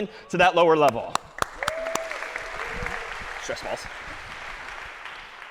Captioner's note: applause